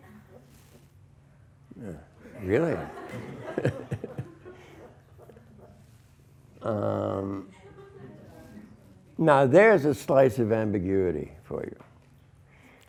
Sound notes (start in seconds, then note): 2.2 laughs